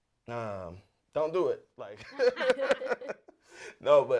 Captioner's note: laughter